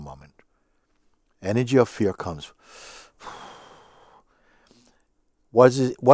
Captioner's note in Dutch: blaast uit